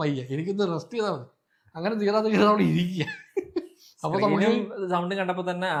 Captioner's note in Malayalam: പൊട്ടിച്ചിരി